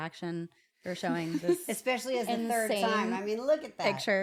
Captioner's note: laugh